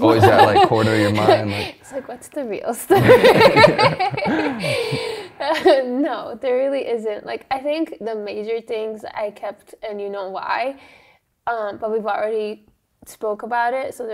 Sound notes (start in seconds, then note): 2.9 laughs